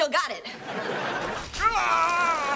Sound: screaming; groaning

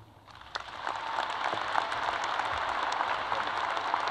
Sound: crowd applause

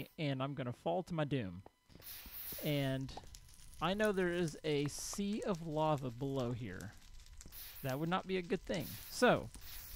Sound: crackling fire

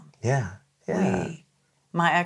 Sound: laughs

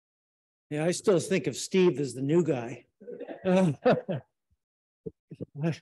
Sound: laughs

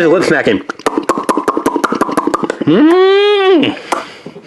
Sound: lip smacking

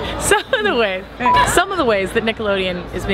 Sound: beep

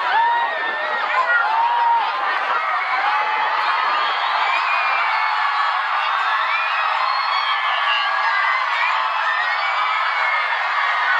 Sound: crowd cheering

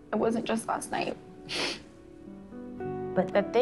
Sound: sniffles

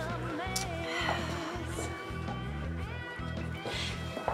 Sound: Erin sighs

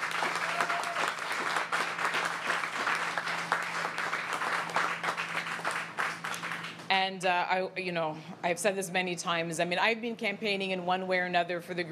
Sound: applause

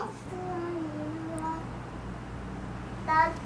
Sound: tiny voice

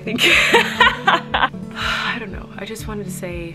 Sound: laughing; sighing

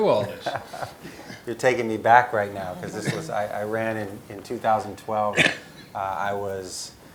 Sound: laugh

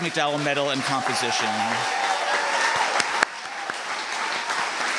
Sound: applause and cheering

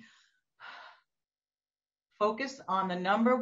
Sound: breathing deeply

